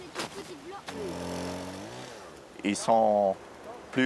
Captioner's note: chainsaw whirring